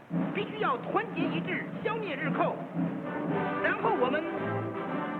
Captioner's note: speaking chinese